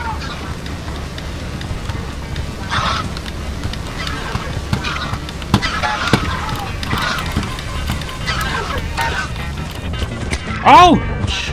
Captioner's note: intense mouse movement